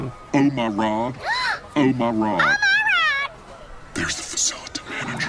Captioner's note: tourist 2 gasps; whispering